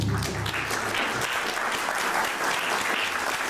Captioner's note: applause